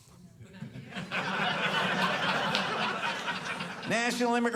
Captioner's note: audience laughing